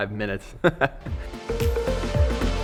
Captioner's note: laughs; upbeat electronic music